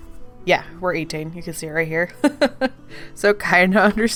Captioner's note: laughs